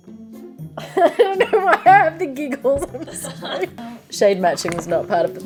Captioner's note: giggles